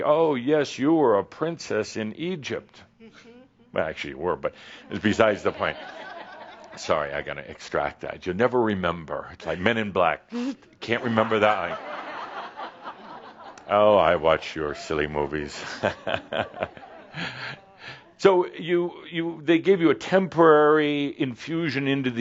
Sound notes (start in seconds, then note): 4.8 laughter; 12.6 laughter; 15.5 Adamus chuckles